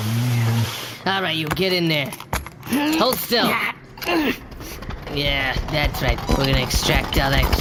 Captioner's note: starting machine